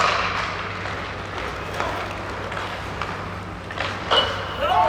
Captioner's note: hockey sticks clattering